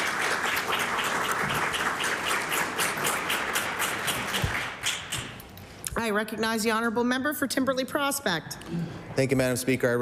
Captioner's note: cheering/Applause